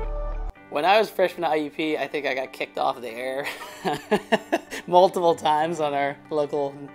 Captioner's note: laugh